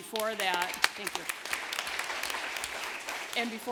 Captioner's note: applause